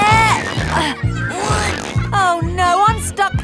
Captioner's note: grunting